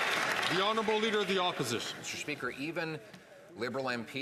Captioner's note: some Applause